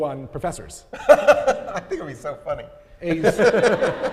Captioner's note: laughs; audience laughing